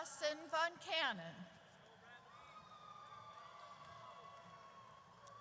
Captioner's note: audience cheers